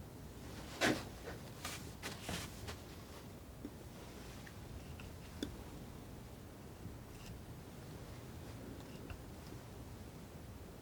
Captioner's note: scissors snipping